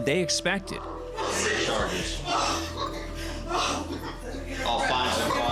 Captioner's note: crying